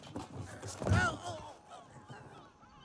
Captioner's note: cartagena groans